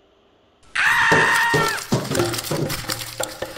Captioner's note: woman screams